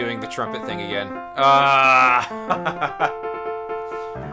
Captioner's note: laughs